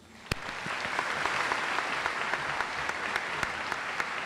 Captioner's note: audience applauds